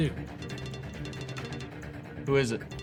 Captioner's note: phone rings